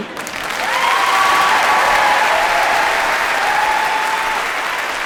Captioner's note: audience cheering